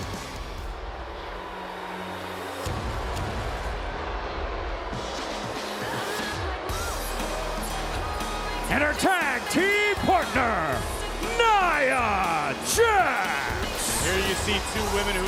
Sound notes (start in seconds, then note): 0.8 crowd jeers; 6.5 upbeat rock music